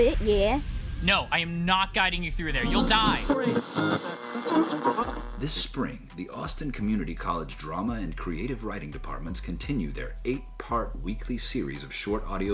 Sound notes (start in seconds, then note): 2.5 radio static